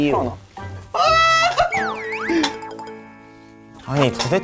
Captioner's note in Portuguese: Boop